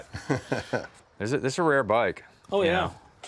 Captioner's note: laughs